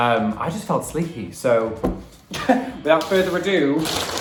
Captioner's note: laughs